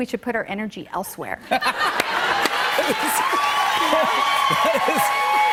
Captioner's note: laughter and applause